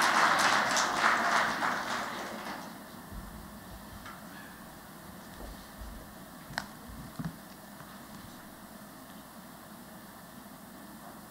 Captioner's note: applause